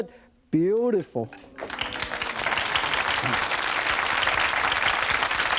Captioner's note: audience oohs and applauds